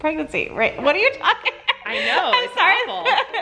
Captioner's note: laughing